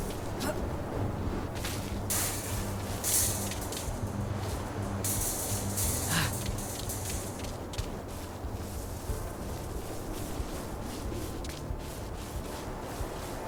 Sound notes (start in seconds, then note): 0.0 ominous music; 1.5 clattering; 6.0 gasping